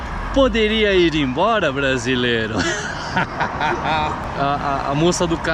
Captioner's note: laughs